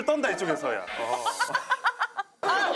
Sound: hahahahahaahah

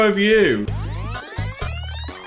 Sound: fast forward sound effect

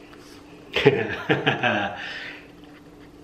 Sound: laughs

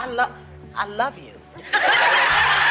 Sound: laughter

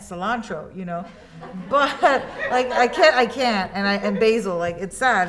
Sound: students laugh

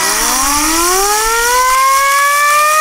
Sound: sirens

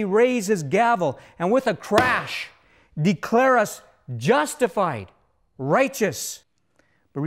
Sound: bang!

